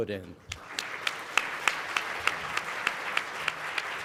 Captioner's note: clapping